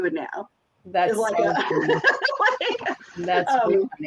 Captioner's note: laughs